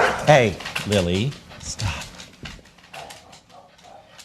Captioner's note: Lily barks